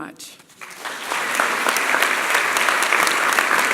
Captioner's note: applause